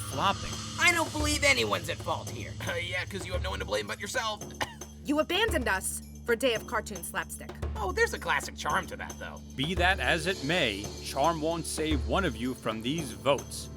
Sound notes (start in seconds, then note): 4.4 coughs